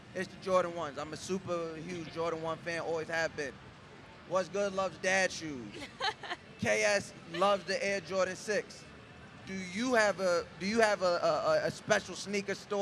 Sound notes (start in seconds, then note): 5.7 laughs